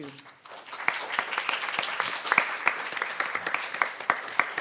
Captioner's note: audience applauding